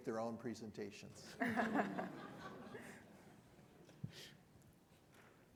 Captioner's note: audience laughing